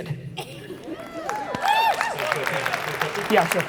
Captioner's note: audience applauding